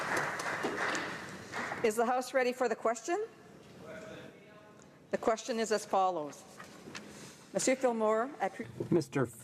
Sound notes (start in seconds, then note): 0.0 applause